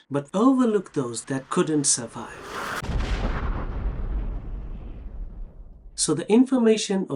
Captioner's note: crashing and hitting sound